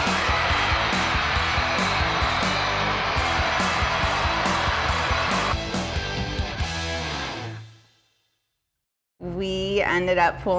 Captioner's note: rock music; crowd cheering